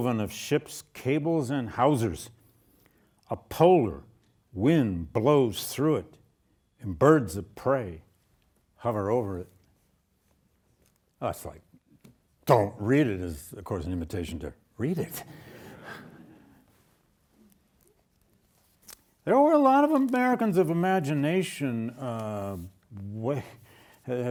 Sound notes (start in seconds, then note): 15.7 audience laughing